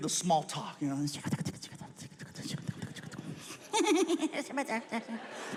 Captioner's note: imitates people whispering